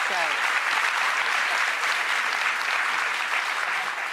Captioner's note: applause